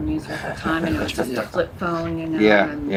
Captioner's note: chuckles